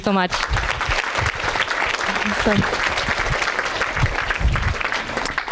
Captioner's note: audience applauding